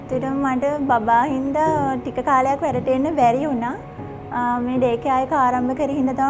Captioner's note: speaking a foreign language